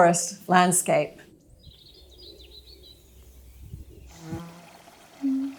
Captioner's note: birds singing; insects buzzing